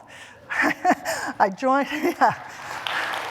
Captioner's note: applause